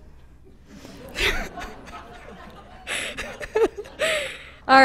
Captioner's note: laughter